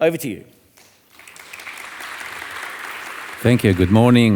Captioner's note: audience applauding